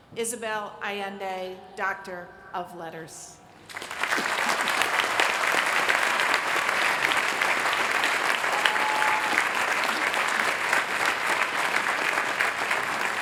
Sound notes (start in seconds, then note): 3.5 applause